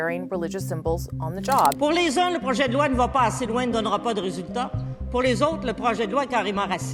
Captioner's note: speaks French